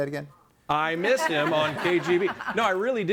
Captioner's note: group laughs